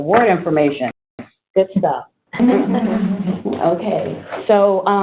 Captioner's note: laughter